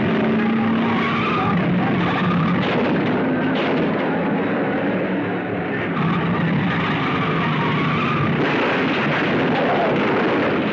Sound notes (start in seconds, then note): 0.0 tires squealing; 1.7 cars crashing; 5.2 tires squealing; 7.8 cars crashing